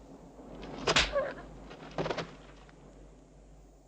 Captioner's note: hand smacks